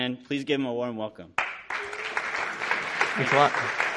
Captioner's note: audience applauding